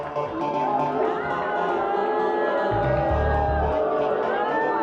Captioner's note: audience boos